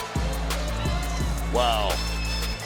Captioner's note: crowd cheering; upbeat music